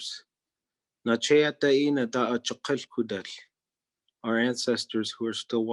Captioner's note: speaking in Native Language